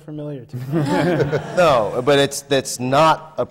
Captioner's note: laughter